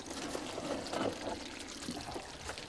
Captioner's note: sizzling